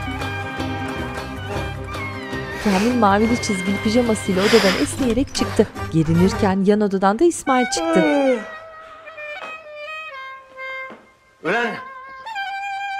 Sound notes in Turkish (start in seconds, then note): 4.9 Kapı sesi; 7.4 Müzik - Klarnet